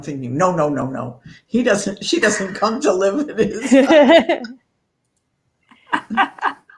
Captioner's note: laughter